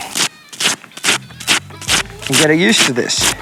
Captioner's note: scratching